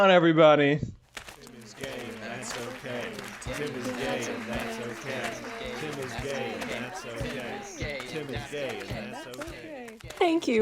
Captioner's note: applause and cheering. a crowd forms, chanting "Tim is Gay and that's Okay"